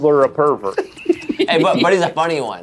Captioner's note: laughs